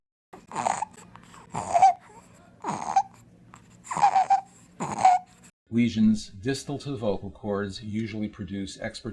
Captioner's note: sound of infant labored breathing